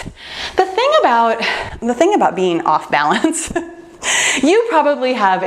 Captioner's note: laughs